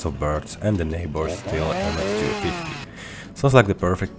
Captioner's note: wroom wroom!